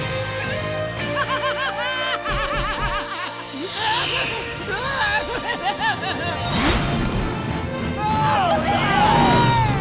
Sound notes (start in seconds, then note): 1.0 laughing; 3.3 yelling; 8.0 cheering